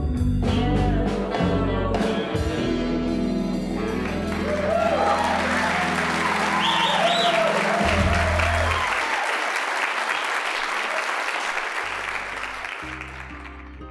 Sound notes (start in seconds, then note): 3.8 applause, cheering; 12.9 somber music